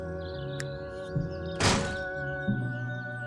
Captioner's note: sounds of fingers snapping and doors closing